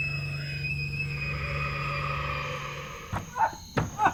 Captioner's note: A ghostly breath